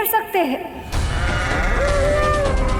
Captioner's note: bull grunts